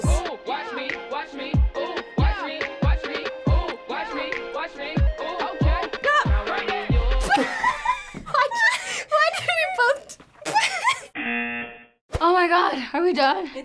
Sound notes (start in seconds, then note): 7.0 both laugh; 11.2 buzzer